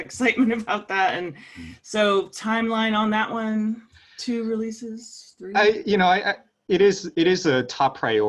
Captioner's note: laugh